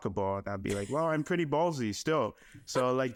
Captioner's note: laughing